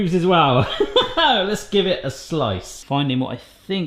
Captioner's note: chuckles